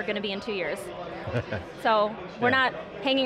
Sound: laughs

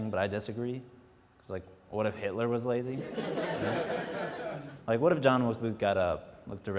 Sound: some laughs

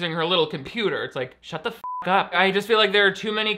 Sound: beep

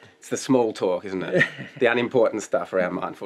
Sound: chuckles

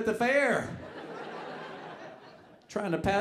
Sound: audience laughing

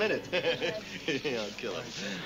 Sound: muttering

